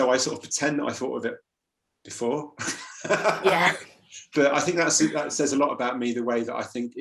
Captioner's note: laughs